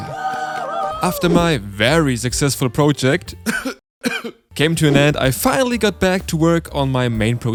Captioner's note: cough cough